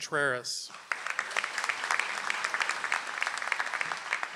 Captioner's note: audience applauds